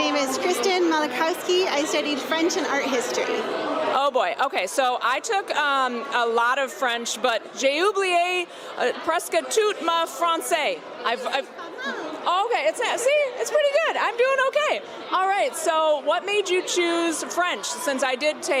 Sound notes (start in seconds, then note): 11.2 speak french